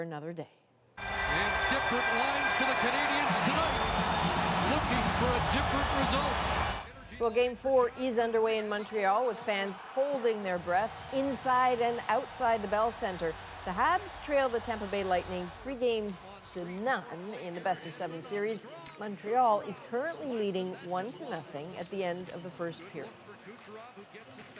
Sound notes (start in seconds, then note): 5.9 cheers and Applause